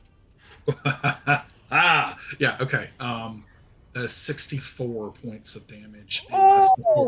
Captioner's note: laughs